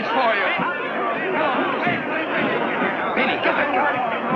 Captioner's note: angry shouting